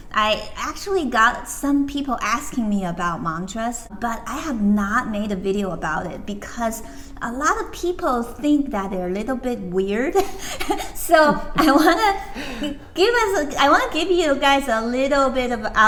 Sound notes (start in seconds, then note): 10.2 both laugh